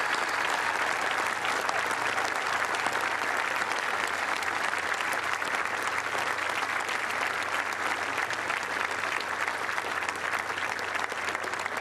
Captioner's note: cheers and applause